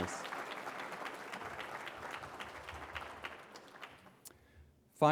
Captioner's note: applause